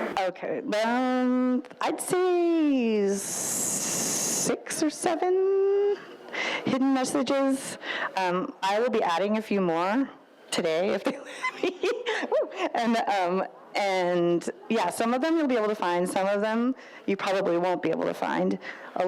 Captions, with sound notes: - Okay, I'd say, six or seven hidden messages. I will be adding a few more today. (laughs) And yeah, some of them you'll be able to find, some of them, you probably won't be able to find.